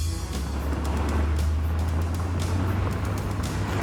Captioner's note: Humvee rumbling; engine starting; suspenseful music continues